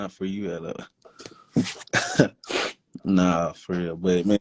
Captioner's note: laughs